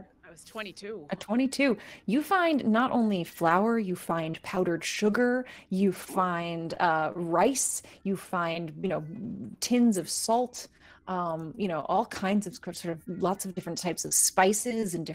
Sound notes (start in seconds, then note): none